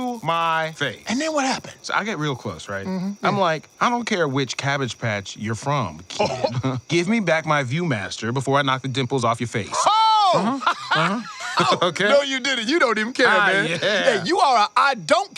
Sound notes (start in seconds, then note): 6.1 laughing; 11.5 Ducky laughing; 12.4 laughs